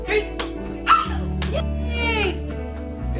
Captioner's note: squeals